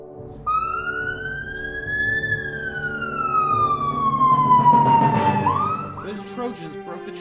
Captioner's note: ambulance siren